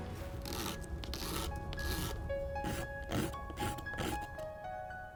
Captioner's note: grating sound